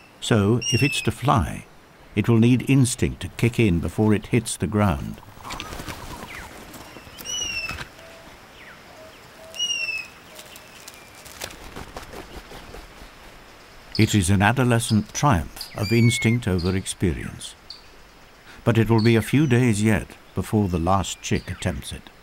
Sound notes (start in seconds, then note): 5.3 birds chirping